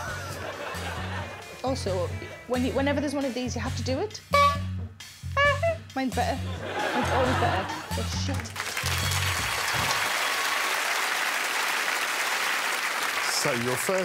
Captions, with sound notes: -Kidnap! -[Alex chuckles] Also, whenever there's one of these, you have to do it? -[honks] -[imitates horn honk] Mine's better, it's always better. It's shit. [applause]